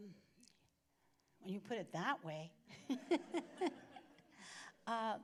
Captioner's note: laughs